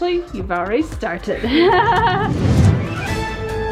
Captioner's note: laughs; dramatic music